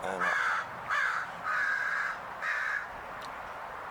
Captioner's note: bird cawing